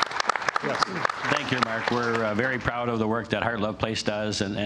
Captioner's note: applause